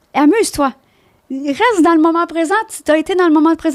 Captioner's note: in french